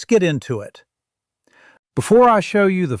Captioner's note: pause